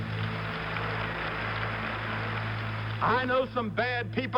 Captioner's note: applause